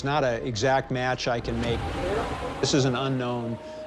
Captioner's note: recording howling